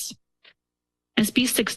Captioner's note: pause